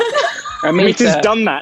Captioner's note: Jessie and Amita laugh